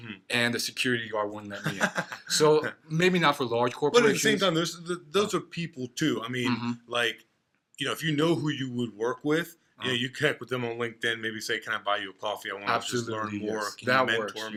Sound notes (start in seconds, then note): 1.5 laughs